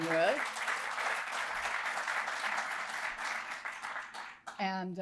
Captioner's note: applause